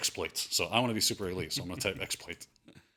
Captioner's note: laughs